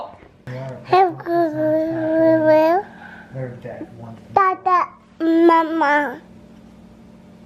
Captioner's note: toddler babble